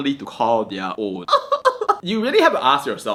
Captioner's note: laughs